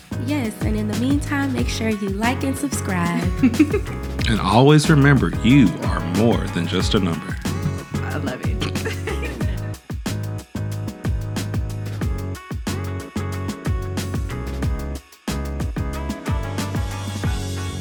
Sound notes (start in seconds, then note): 3.0 giggles; 9.0 laughing; 10.2 upbeat music